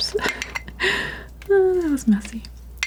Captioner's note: scratching